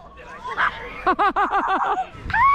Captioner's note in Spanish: Risas